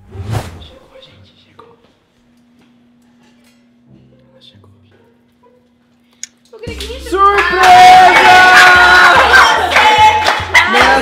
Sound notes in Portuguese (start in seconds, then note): 8.0 Gritando